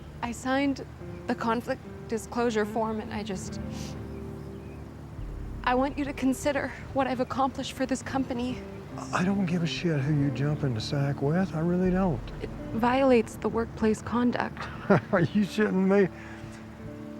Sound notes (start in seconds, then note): 3.8 sniffs